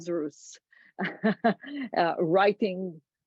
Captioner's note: laughs